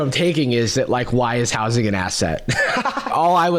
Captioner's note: laughs